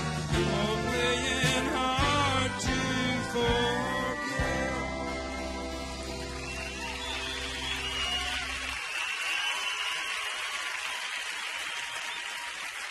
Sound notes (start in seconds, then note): 5.8 audience cheering and applauding